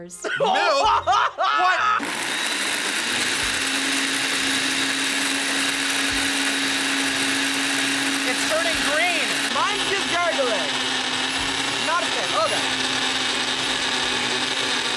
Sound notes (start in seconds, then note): 0.2 laughs; 2.0 blender whirring